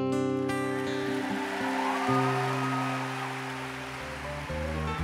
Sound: applause

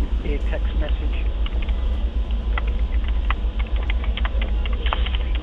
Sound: keyboard clacking

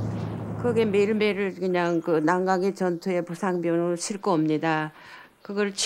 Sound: speaking foreign language

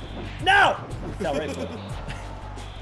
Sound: laugh

